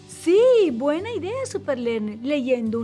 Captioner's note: none